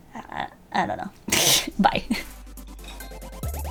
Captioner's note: laughs